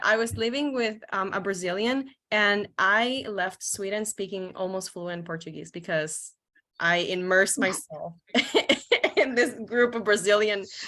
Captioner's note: laughs